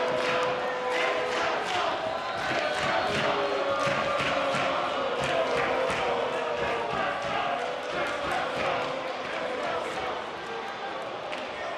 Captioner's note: audience chanting